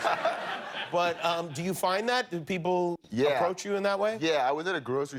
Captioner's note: laughter